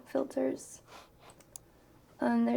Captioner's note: mouse clicks